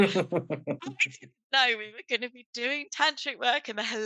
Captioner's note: laughs